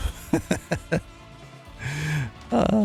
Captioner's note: laughs